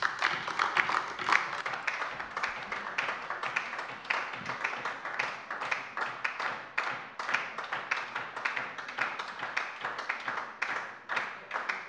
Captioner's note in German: Lebhafter Beifall DIE LINKE